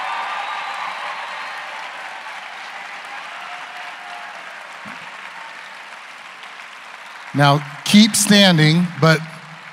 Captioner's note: cheers and applause